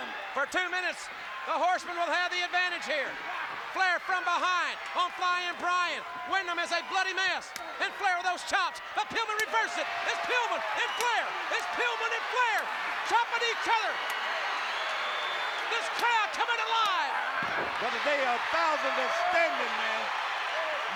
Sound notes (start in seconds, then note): 14.4 applause